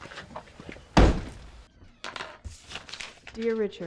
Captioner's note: door slams shut